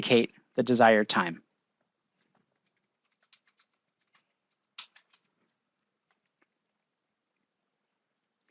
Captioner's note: keyboard typing